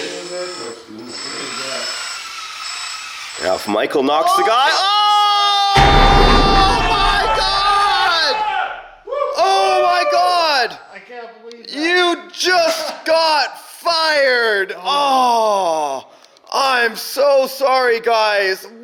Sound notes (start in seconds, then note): 4.9 shouting; 5.8 ominous music; 7.2 all shouting